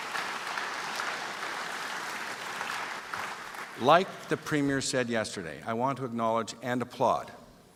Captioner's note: applause